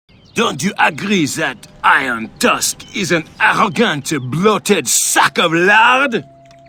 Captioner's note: horrific french accent